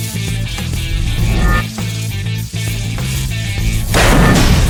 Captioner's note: sword whooshes; sword crashes